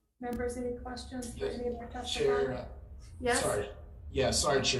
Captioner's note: speaks faintly